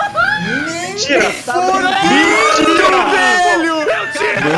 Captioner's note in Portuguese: Gritos